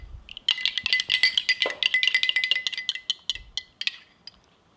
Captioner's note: spoon clinking